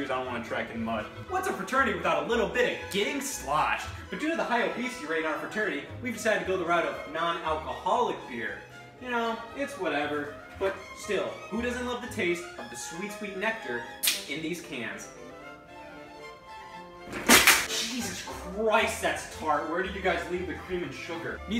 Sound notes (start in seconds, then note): 14.0 can hisses and clicks; 17.1 spits, non-alcoholic beer splashes